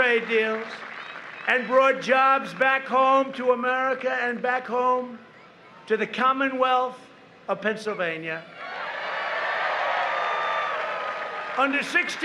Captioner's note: applause